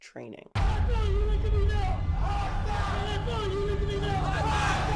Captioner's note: drill sergeant screaming